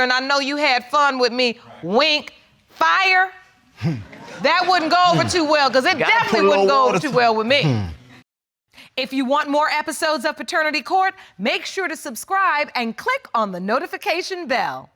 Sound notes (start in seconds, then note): 3.8 chuckles